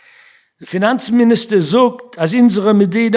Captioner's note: speaking yiddish